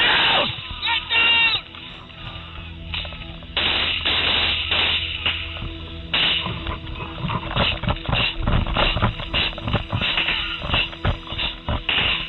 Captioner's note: gunfire